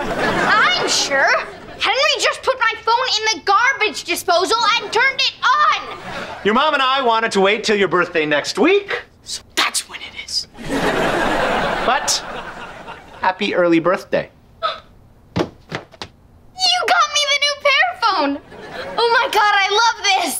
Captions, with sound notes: I'm sure. Henry just put my phone in the garbage disposal and turned it on. Your mom and I wanted to wait till your birthday next week. So that's when it is. But... happy early birthday. [gasping] You got me the new Pear phone. Oh, my God, I love this.